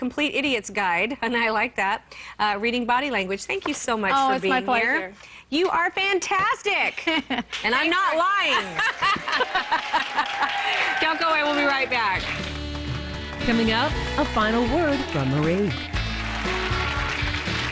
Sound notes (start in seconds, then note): 8.1 laughter